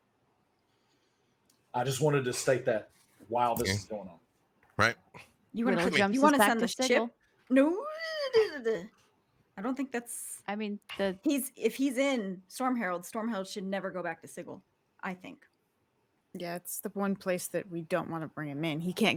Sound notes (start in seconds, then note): 5.7 murmurs